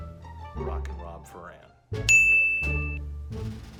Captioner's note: ding